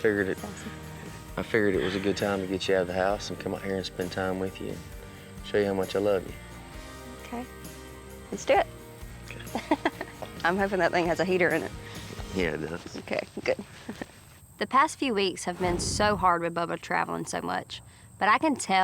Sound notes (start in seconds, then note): 9.3 chuckles